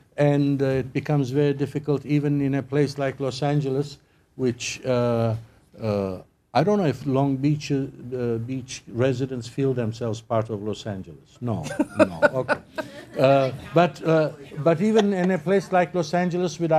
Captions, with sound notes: AND IT BECOMES VERY DIFFICULT EVEN IN A PLACE LIKE LOS ANGELES, WHICH-- I DON'T KNOW IF LONG BEACH-- THE BEACH RESIDENTS FEEL THEMSELVES PART OF LOS ANGELES. NO, NO, OK. [ LAUGHTER ] BUT EVEN IN A PLACE LIKE LOS ANGELES WITH--